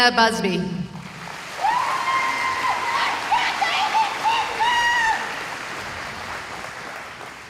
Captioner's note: cheering